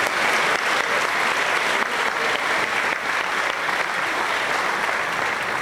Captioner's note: applause